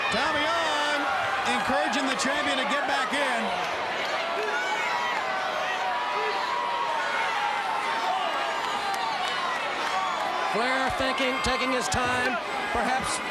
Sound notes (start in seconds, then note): 3.3 crowd cheering